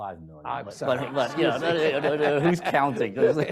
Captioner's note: audience laughs